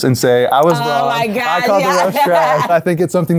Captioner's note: laughs